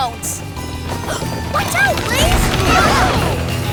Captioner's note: gasping